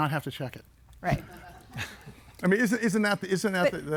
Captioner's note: everybody laughing